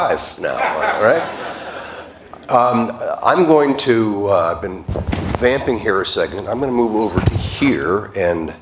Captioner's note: laughter